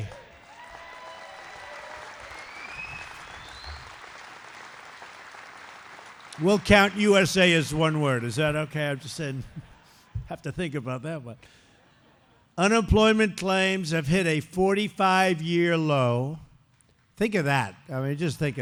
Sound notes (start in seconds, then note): 0.0 applause; 8.9 laughter; 11.8 laughter